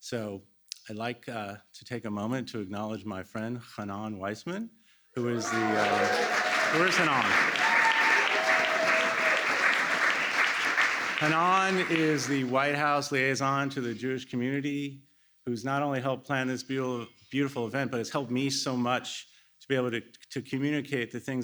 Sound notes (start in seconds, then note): 7.7 applause